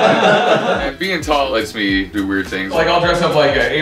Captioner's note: laughter